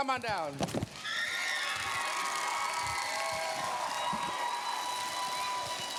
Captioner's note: cheers, applause